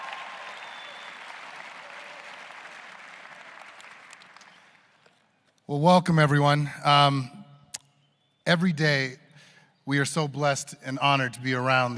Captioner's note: applause